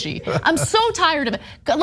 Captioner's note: laugh